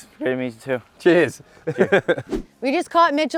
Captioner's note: laughs